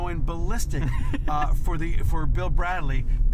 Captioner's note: laughs